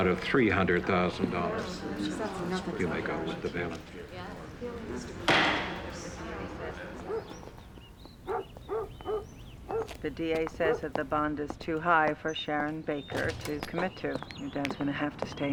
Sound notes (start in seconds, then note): 0.1 crowd murmurs; 5.2 gavel bangs; 5.2 dog barks in distance